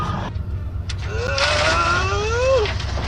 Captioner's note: groaning